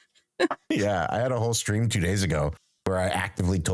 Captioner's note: laughs